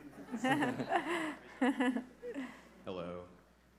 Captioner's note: everybody laughing